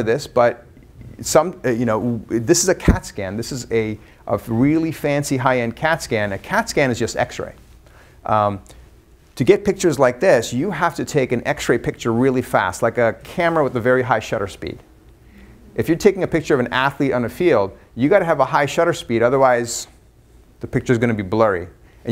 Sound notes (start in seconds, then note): none